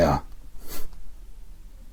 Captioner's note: sniffs